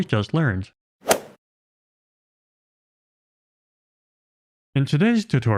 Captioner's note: golf ball hit sound effect